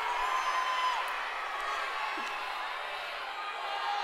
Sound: shouting

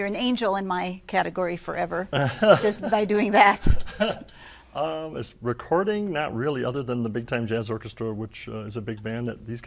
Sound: laughter

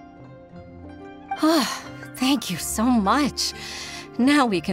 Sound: sigh

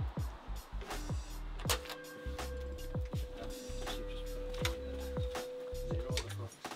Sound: lively music continues; door opening

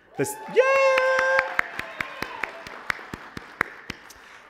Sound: applause

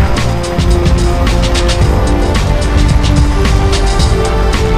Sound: text as explosion echoes

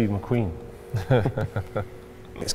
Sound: laughter

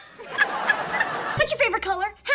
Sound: laughing

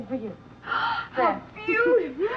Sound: Anne gasps

